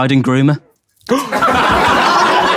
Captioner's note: Tobi gasps; people in room laughing